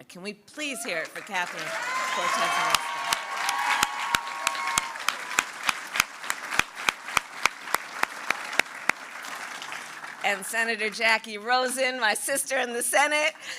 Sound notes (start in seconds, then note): 3.2 applause